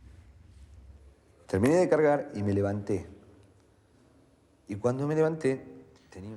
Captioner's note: man speaking in foreign language